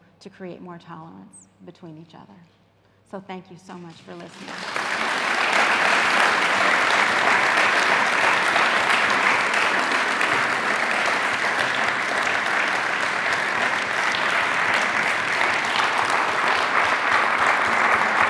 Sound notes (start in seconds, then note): 5.1 audience applauding